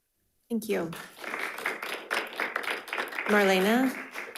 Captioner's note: audience applauding